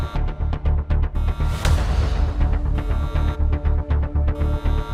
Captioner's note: alarming sound